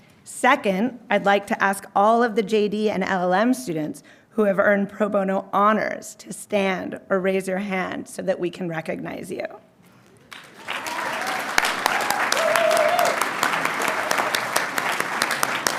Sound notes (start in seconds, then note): 10.3 audience cheering and applauding